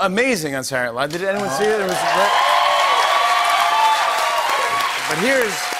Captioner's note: cheers and applause